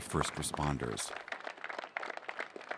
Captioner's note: applause